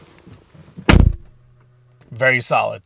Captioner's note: car door slamming